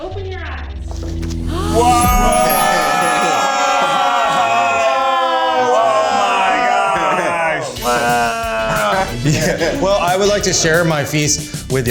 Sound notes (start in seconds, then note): 1.7 gasps